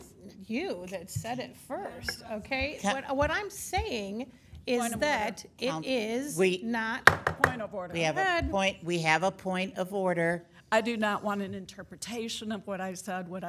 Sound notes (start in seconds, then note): 7.1 gavel banging